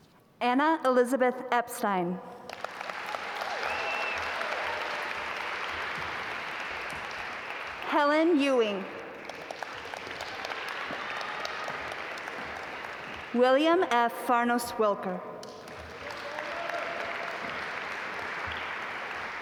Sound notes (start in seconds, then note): 3.7 audience applaud; 9.8 audience applaud; 15.4 audience applaud